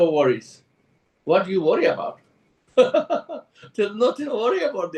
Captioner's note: laughs